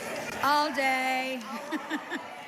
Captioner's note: laughter